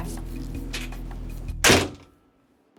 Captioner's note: door Closing